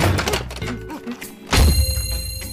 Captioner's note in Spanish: ¡Pum!